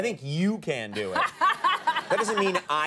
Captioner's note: Jada and audience laughing